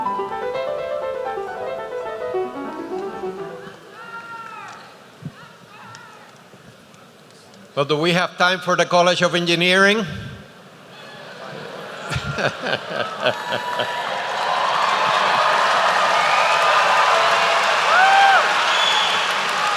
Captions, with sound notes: - So do we have time for the College of Engineering? (laughter) (applause)